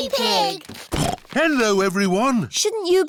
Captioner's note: snorts